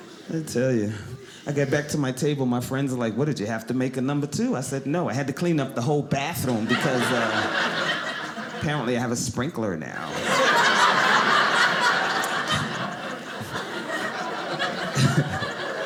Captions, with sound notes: I tell you. I got back to my table. My friends were like, "What did you have to "make a number two?" I said, no, I had to clean up the whole bathroom because apparently I have a sprinkler now. (audience laughing)